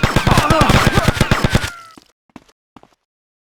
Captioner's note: gun firing; man screaming